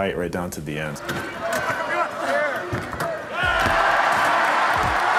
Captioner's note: cheering